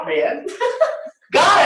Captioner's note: laughter